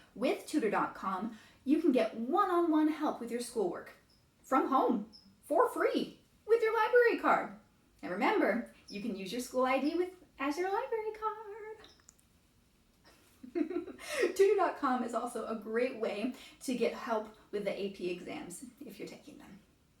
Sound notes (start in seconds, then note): 13.4 laughs